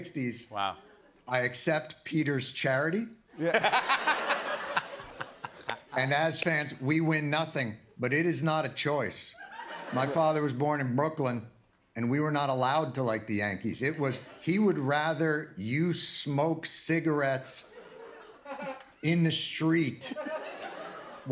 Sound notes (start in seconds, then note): 3.4 laughter